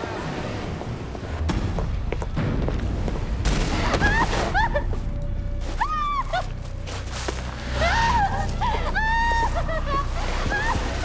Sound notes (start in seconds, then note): 3.6 crying; 7.7 crying and screaming